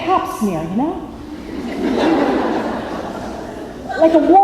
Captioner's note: laughter